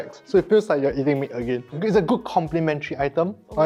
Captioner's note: none